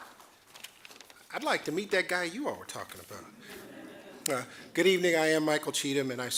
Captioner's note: audience chuckling